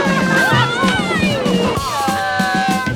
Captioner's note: cheering